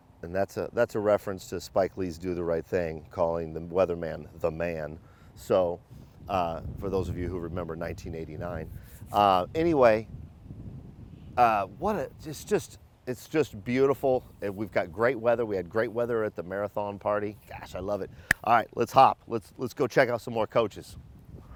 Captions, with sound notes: And that's a reference to Spike Lee's "Do the Right Thing," calling the weatherman, "The Man." So, for those of you who remember 1989. Anyway, it's just beautiful and we've got great weather. We had great weather at the Marathon party. Gosh, I love it. (fist thuds) All right, let's hop, let's go check out some more coaches.